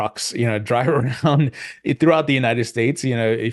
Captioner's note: chuckles softly